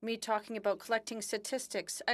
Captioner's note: speaking French